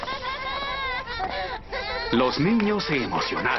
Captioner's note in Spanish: niños celebrando